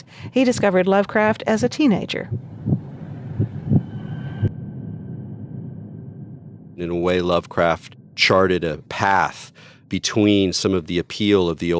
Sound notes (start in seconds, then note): 2.8 heart pounding